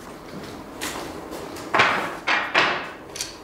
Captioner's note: rattling